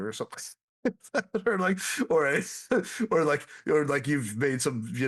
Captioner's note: laughs